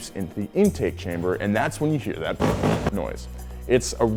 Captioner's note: engine revs